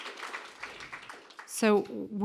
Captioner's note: applause